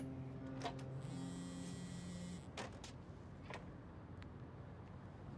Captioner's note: phone vibrating